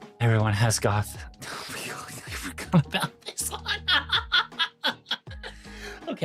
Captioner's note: laughs